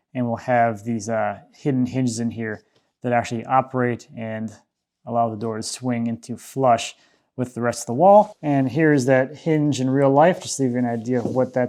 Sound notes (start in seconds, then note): none